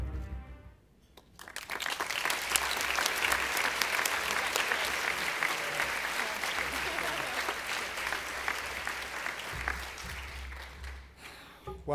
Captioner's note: applause